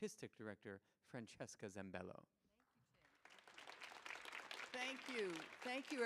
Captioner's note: audience applauding